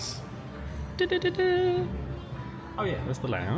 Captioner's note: hums happily